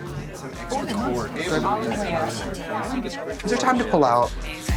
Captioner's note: crowd chattering